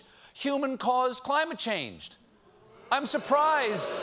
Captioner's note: booing